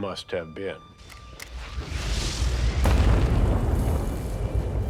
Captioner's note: bombs exploding